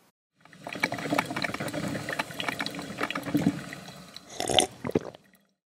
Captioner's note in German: Blubber- und Trinkgeräusche